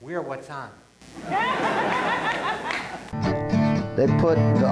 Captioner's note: audience laughs